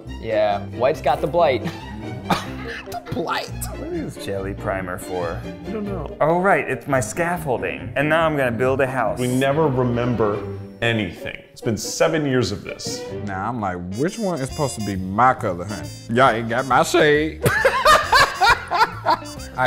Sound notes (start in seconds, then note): 1.6 scoffs; 17.4 laughs